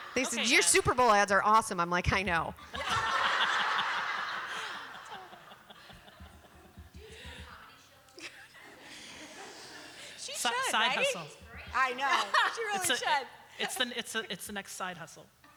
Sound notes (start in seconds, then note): 2.6 laughter